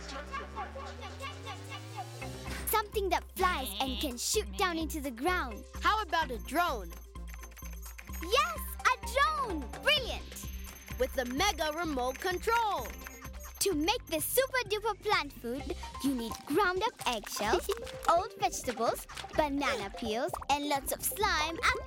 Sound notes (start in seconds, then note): 6.7 keyboard clicking